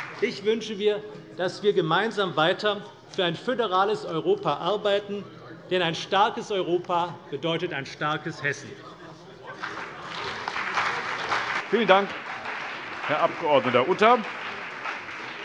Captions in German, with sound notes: Ich wünsche mir, dass wir gemeinsam weiter für ein föderales Europa arbeiten; denn ein starkes Europa bedeutet ein starkes Hessen. [Beifall CDU und BÜNDNIS 90/DIE GRÜNEN] Vielen Dank, Herr Abg. Utter.